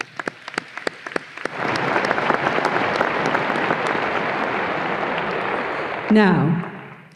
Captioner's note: audience applause